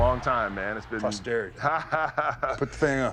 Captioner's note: laughter